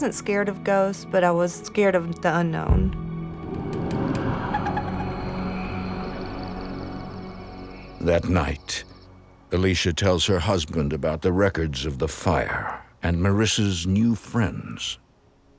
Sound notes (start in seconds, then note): 4.4 eerie creaking